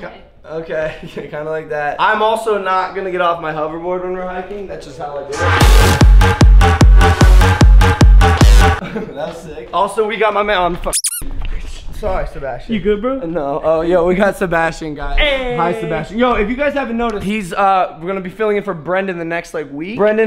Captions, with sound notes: Ok *chuckles* kinda like that I'm also not gonna get off my hoverboard when we're hiking that's just how I do it. *laughs* That was sick. Also, we got my man... oh f*ck Sorry Sebastien. You good bro? No. Oh yo we got Sebastian guys Ayyyeee. Hi Sebastian Yo if you guys haven't noticed he's uhh gonna be filling in for Brendon the next like week